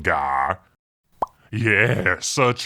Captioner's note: pop